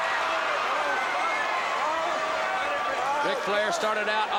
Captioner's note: crowd cheering